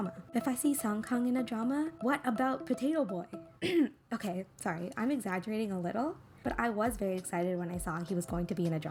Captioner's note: ahem